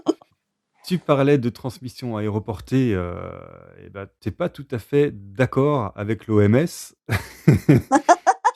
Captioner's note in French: rires